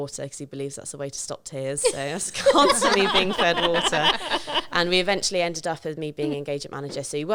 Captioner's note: laughing